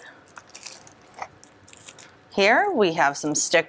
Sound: plastic wrapper rustles

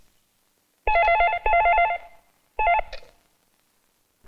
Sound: phone rings

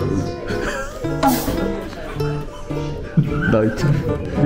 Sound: embarrassed laughter

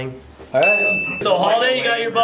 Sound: ding

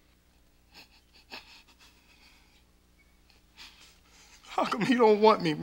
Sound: stifled sobbing

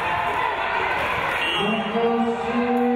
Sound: crowd

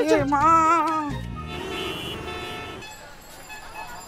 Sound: horn honking

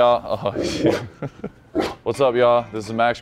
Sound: dog barking

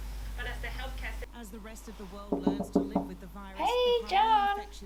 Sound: tv news in the background

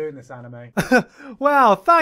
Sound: moving on chuckle

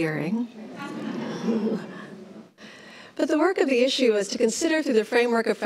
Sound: laughs

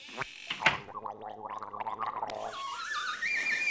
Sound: gargling

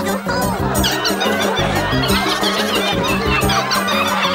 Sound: mice laugh

